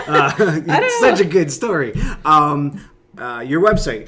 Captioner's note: laughs